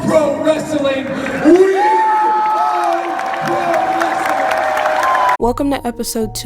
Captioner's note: audience cheering